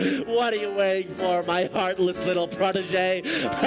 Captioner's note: laughing